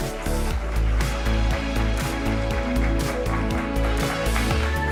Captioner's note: applause